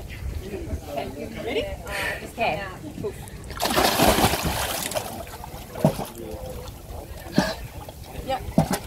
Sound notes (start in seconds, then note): 3.4 water splashes